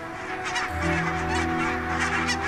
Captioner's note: birds squawking